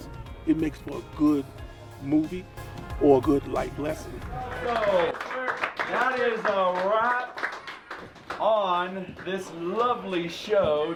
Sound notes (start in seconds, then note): 3.4 background music fades out; 4.3 applause